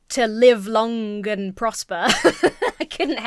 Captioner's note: laughs